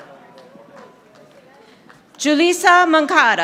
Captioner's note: audience applauding